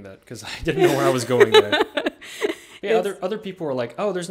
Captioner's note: both laughing